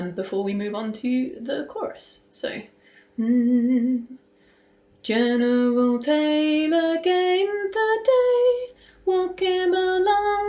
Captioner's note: pitch humming